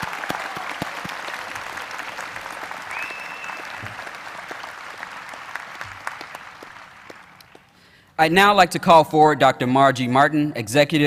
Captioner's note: applause